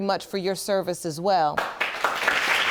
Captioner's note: audience claps